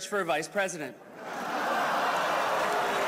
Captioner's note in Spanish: risas